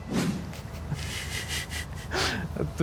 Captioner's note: both snicker